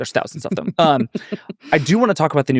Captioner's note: giggling